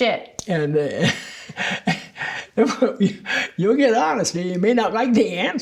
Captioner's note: laughs